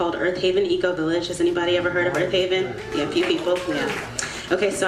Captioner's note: audience clapping